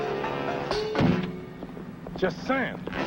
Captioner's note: sack thuds